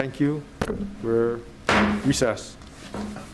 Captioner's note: gabble banging